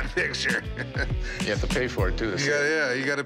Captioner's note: chuckles